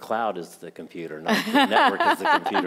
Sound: laughing

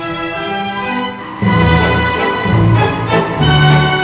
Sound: machine whirring

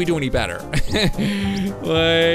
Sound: laughs

